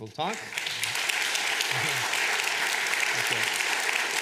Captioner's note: applause